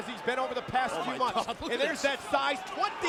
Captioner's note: laughs